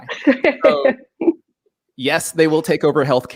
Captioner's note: laughing